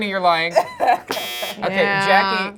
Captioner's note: buzzer beeping